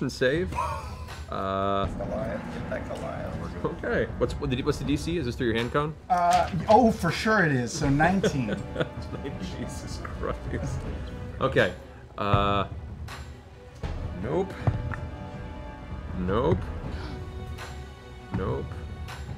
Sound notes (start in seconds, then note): 7.9 laughing